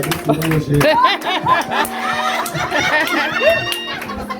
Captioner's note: audience laughing